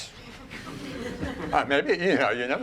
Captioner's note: laughing